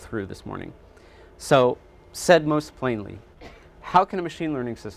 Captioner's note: audience member coughing